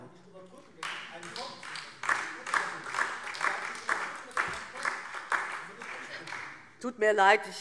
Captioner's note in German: Beifall DIE LINKE - Zurufe AfD